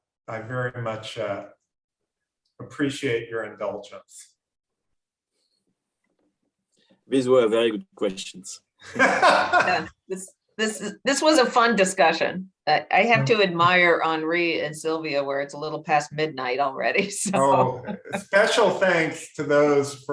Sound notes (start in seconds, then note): 8.9 laughs; 17.1 laughs